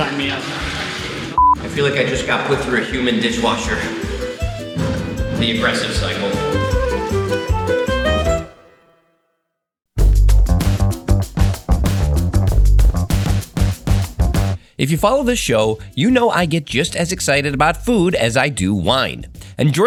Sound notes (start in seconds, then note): 1.4 beep; 6.8 bright orchestral music; 10.0 lively upbeat music